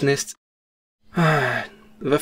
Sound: sigh

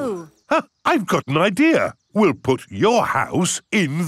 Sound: gasps

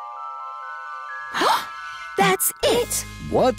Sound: gasps

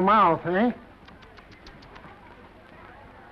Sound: tsks

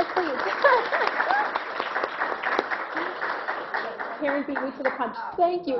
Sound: clapping

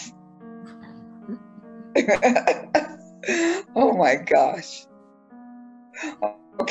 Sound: laughter

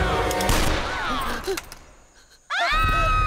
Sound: gun shot; woman screaming

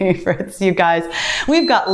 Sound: timer beeps

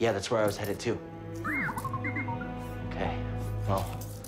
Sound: whistle, beep

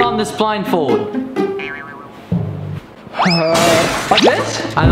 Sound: comical sounds play

